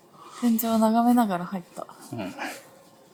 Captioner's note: laughs